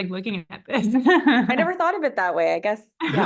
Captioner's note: laughing